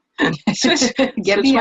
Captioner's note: speakers laughing